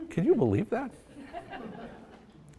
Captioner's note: audience laughs